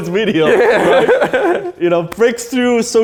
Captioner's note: laughs